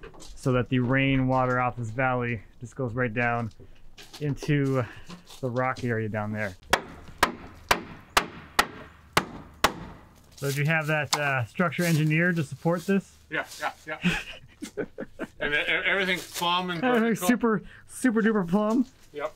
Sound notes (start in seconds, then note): 6.6 hammer smacking; 14.0 chuckles